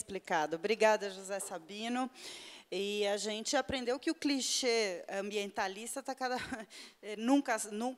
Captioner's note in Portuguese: risos